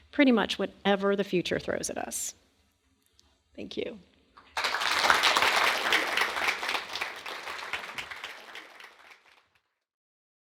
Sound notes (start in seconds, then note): 4.4 audience applauding